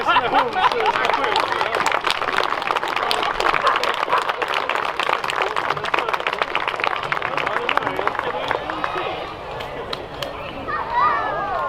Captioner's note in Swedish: Applåder